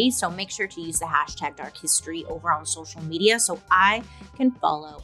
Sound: none

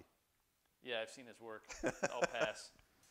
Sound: laughter

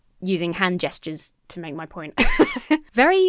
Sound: laughs

